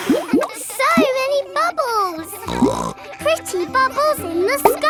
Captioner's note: all blowing; snorts